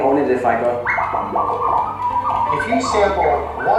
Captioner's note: record scratching